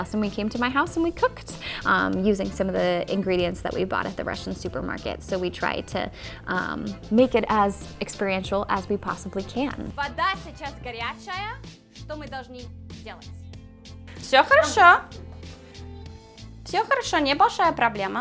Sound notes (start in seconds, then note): 14.1 speaking Russian